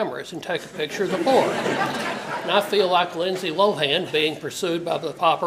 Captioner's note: laugh